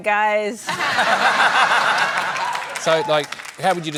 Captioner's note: laughter